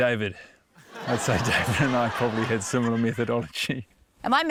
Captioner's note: laughter